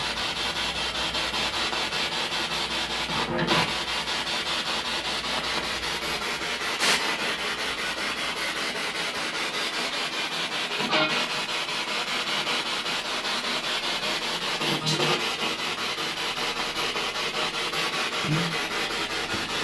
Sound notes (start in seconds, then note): 0.7 radio noise from the spirit box